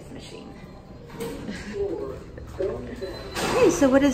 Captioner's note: automated Voice